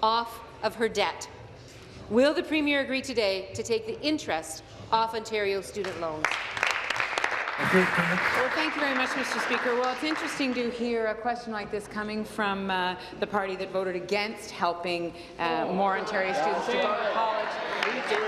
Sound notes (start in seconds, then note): 9.9 applause